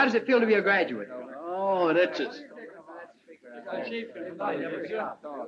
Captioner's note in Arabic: ثرثرة الحشد